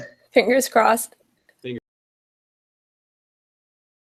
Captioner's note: gets cut off, silence